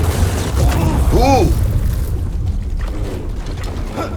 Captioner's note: explosion